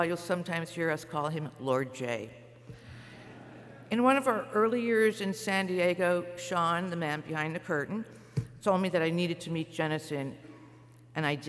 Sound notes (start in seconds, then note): 3.2 laughter